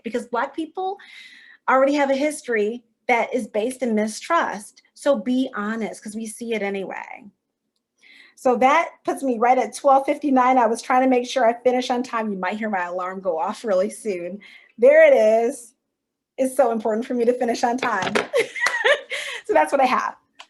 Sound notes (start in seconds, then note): 18.4 chuckle